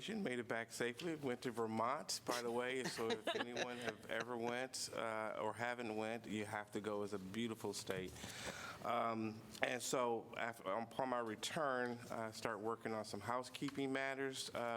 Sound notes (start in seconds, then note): 2.4 laughter